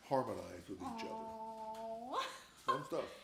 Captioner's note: laughs